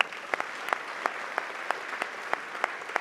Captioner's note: applause